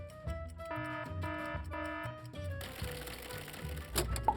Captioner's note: alarm ringing